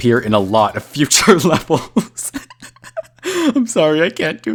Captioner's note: laughing